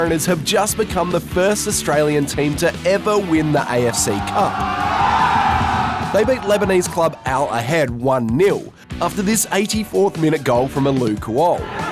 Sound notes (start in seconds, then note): 4.5 all cheer